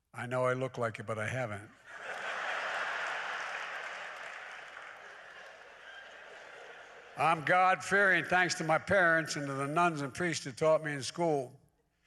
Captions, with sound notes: I know I look like it, but I haven't. (Laughter.) I'm God-fearing thanks to my parents and to the nuns and priests who taught me in school,